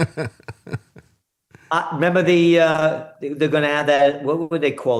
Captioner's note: laughing